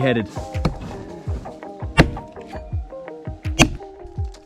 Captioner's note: thudding